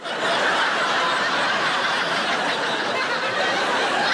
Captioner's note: audience laughing